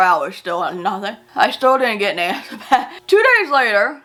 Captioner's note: chuckles